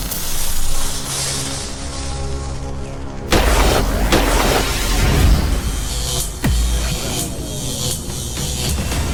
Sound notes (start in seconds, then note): 3.3 gunshots firing; 5.8 electricity buzzing